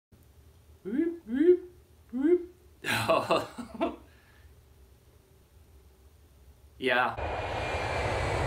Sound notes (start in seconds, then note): 0.8 making wooping noises; 2.8 giggles